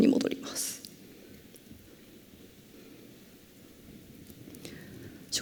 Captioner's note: silence